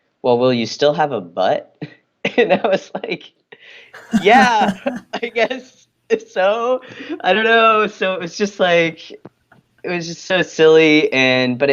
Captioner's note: laughing